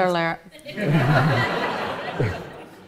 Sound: audience laughs

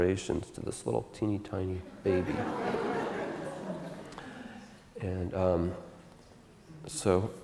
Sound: audience Laughter

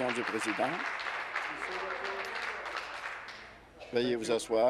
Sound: applause

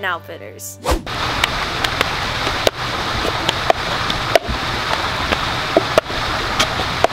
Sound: handclaps and cup hitting table rhythmically

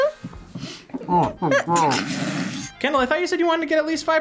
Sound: snorts; laughs

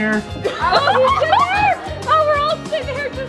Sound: giggling

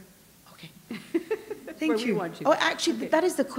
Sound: chuckle

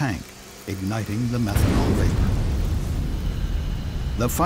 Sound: explosion booms

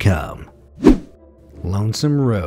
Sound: air whooshing

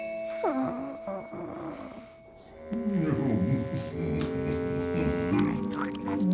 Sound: yawn, snoring

